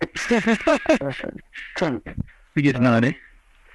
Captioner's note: both laugh